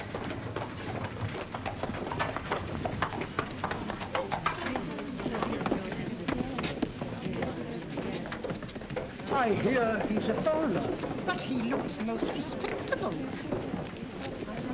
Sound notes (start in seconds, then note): 0.0 soft chatter; 0.0 wagon clatters; 5.1 soft chatter